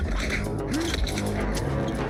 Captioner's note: grunting